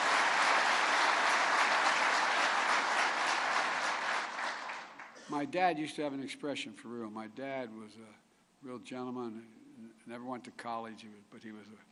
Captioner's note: applause